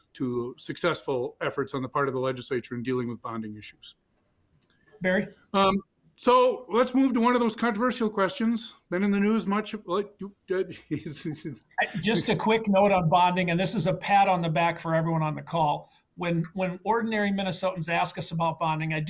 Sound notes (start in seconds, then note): 11.7 laughs